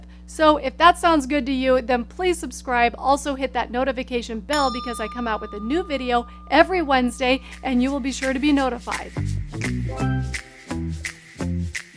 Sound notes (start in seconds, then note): 4.5 bell rings; 9.3 upbeat music